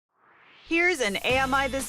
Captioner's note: swoosh